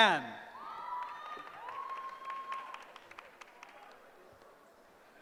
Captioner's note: cheering